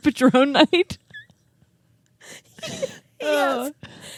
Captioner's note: both laughing